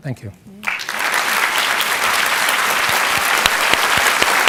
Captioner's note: audience applauding